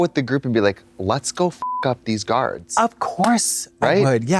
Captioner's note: beep